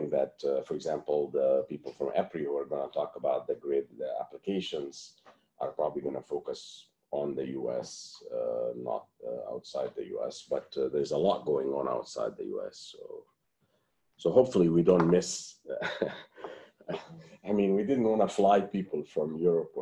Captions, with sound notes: that for example the people from embryo are gonna talk about the grid. The applications are probably going to focus on the US, uh, not outside the US but there is a lot going on outside the US. So hopefully we don't miss [LAUGHTER]. I mean we didn't really fly people from Europe,